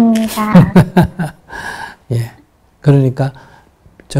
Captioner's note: Sunim Laughter